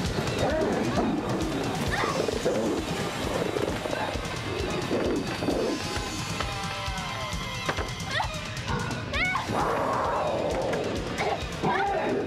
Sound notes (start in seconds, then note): 0.7 gasps, Whimpers; 8.4 whimpering